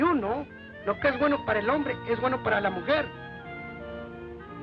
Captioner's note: man speaks Spanish